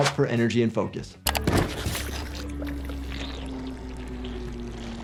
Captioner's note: head gurgling